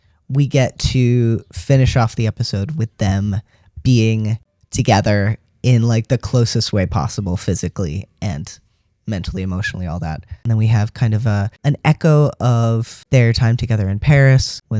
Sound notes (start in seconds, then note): none